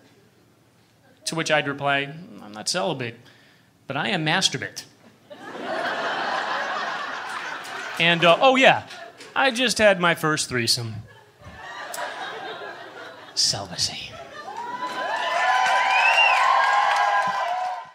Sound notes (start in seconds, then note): 5.1 laughter; 14.5 applause